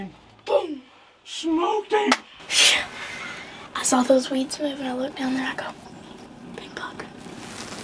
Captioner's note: whispering